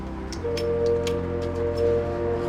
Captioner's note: button clicks; fuel dispenser beeps; pump lever clicking; gentle music